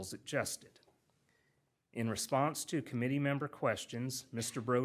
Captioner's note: none